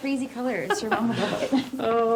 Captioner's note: Grace laughs